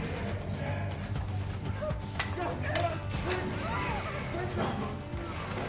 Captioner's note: shouting